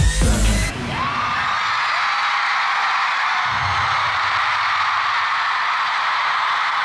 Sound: cheering

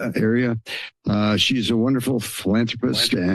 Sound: mic static

